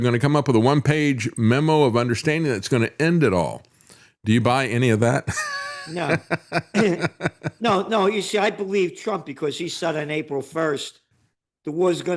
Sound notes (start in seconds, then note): 5.2 laughs